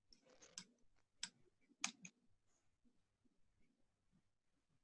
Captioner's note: mouse clicks